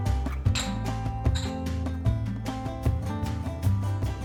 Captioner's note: glasses clanking